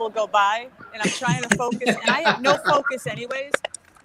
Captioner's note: laughs